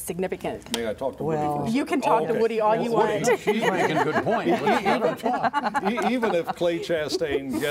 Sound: laughter

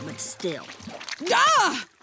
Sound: shrieking

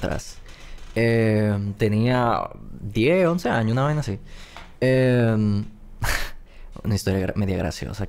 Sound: laughs

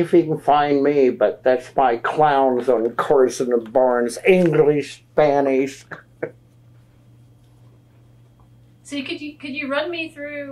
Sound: laughs

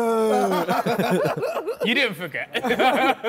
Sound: men laughing

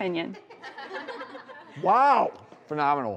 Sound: audience laughs

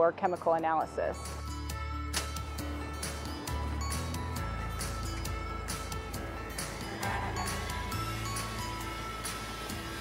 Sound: centrifuge starting and spinning

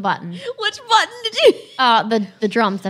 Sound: laughing

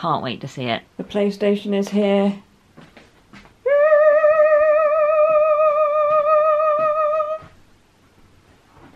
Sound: excited squeak

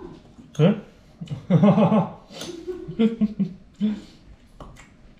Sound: laughing

